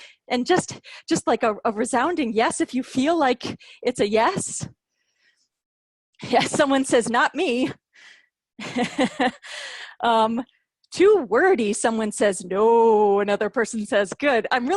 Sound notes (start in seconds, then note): 8.6 laughter